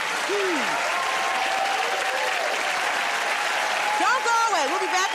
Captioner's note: cheers and applause